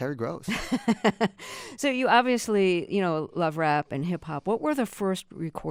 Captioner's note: laughter